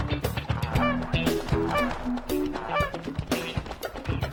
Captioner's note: horse snorts; goose quacks